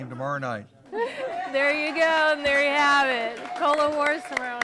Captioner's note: �cheering and applause�